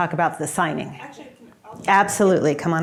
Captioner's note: speaking faintly